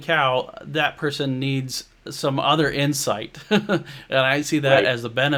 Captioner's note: chuckles